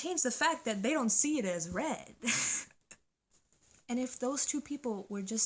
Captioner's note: laughs